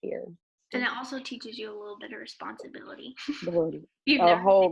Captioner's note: laughs